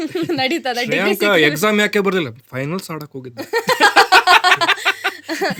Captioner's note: both laugh